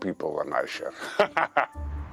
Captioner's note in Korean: 웃음